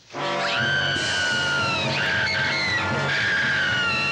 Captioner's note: screaming